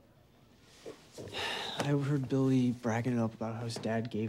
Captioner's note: sighs